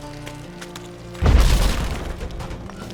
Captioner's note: debris clatters; thunderous boom